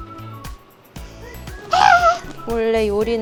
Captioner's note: A shout wrapped in sound